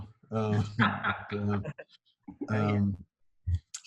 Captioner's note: chuckling